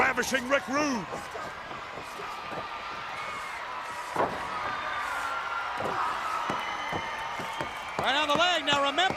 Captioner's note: crowd cheering